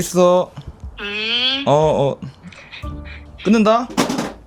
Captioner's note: sobbing at the memories of the past